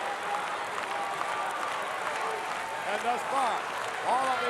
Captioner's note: audience applauding